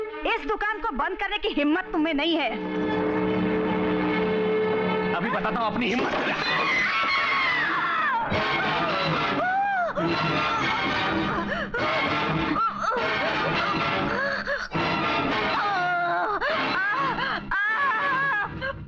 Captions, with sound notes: You don't have that much guts to finish me. I will show you my guts. - (Screams) (Groans) (Groans)